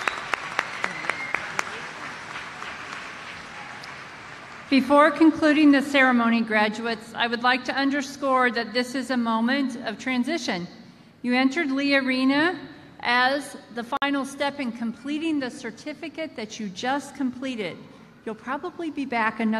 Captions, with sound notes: (APPLAUSE). BEFORE CONCLUDING THE BEFORE CONCLUDING THE CEREMONY, GRADUATES, I WOULD LIKE TO UNDERSCORE THAT THIS IS A MOMENT OF TRANSITION. YOU ENTERED LEE ARENA AS THE FINAL STEP IN COMPLETING YOUR TIME